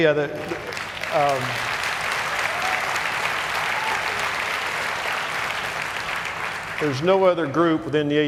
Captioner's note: applause